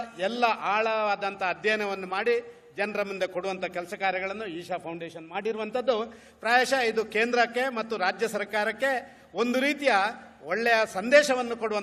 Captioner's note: speaks in Kannada – not transcribed